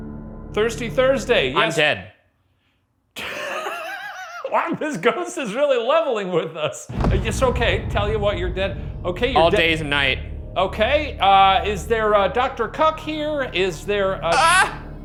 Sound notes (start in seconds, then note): 3.2 laughs